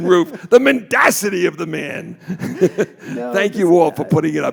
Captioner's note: laughs